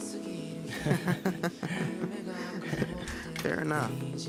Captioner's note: Lyk and Dazach laugh